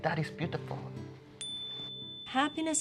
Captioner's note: ding – buddhist bell